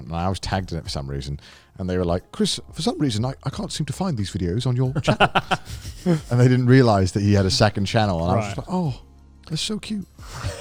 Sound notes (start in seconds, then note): 5.0 laughs; 10.3 all chuckling